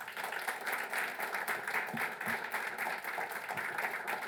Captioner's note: applause